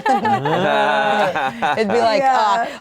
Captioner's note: all laughing